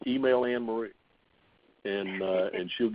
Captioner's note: laughing